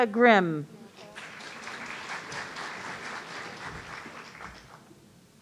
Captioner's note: audience applauding